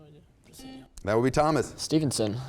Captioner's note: buzzer sounds